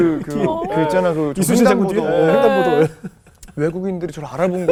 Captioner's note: laughing